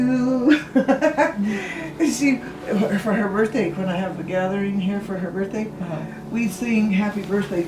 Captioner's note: laughs